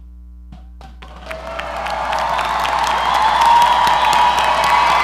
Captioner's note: audience applauding